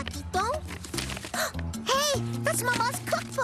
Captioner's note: gasp